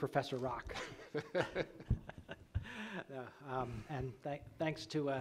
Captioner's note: laughing